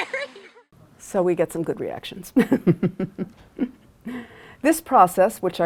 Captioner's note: laughs